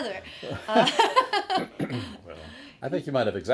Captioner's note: laughing